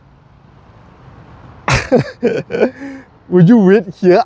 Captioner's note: laughing